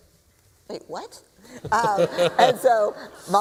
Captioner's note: laughter